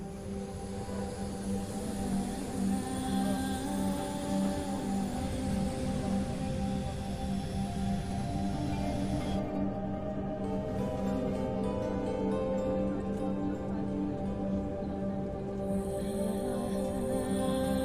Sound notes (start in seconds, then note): 0.2 pensive music; 3.5 airplane engine whirring